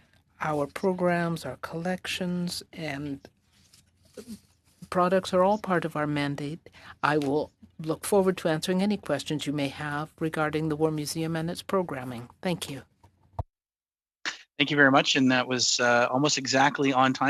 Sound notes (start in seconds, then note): 2.2 speaking French